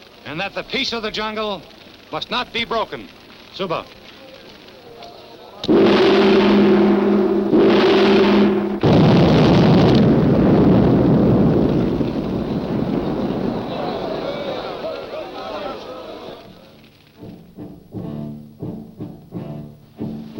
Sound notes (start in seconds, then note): 5.6 gong clanging; 8.8 fire whooshing; 12.5 tribes people murmuring